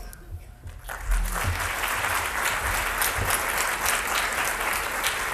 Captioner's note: audience applauds